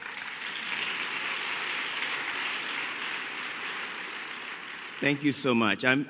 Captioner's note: applause